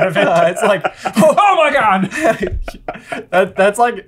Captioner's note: laughing; gasp